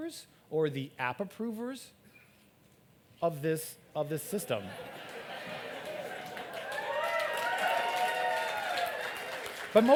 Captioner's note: applaud